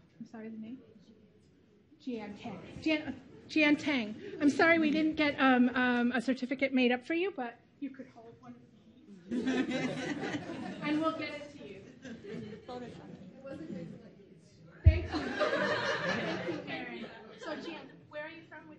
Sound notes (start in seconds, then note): 9.2 laughter; 9.6 chattering